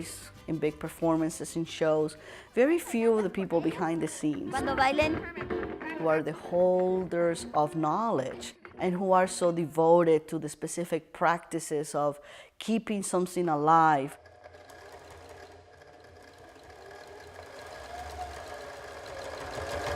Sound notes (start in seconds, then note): 14.1 sewing machine hums